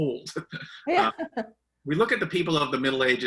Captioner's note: laughter